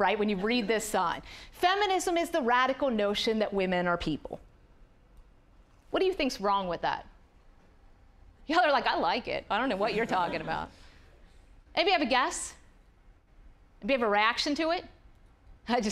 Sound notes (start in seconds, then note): 9.8 audience laughing